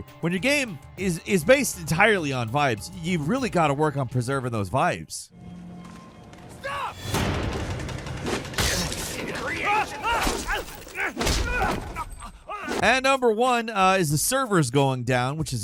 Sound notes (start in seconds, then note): 8.2 intense music; 8.2 killer grunting